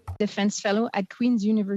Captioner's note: speaking french